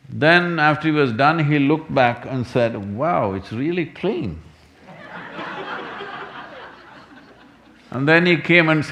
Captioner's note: laughter